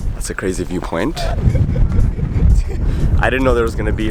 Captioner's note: laughter